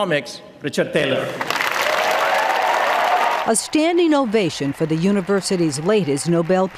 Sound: cheers and applause

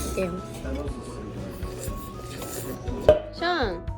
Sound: slurp

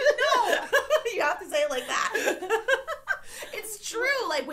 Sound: laughs

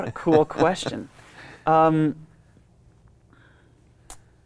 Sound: laughs

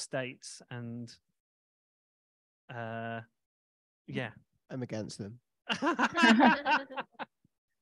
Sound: laughter

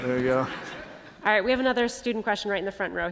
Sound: laughter

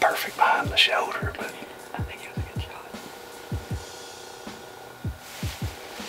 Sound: whispering

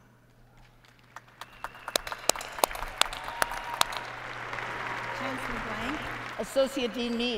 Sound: applause

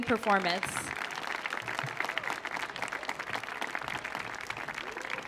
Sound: audience applauds

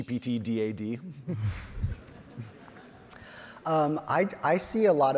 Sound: all chuckle

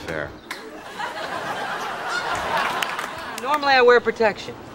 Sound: audience laughs

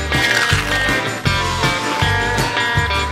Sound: country music; meat crunching; country music

